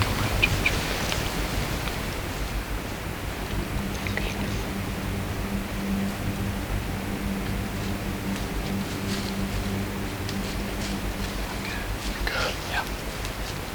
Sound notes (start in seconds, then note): 0.0 sound of leaves blowing in tree; 8.8 sound of walking